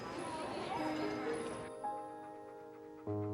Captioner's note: panting